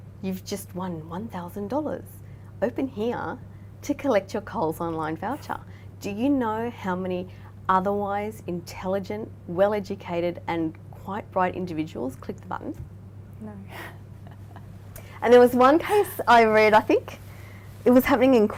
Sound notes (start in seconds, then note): 14.2 laughing